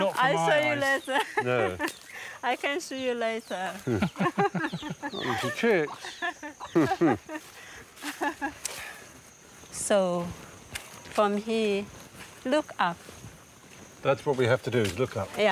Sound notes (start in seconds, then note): 3.7 laughing